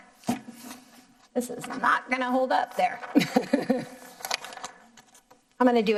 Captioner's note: laughing